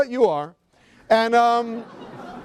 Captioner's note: laughter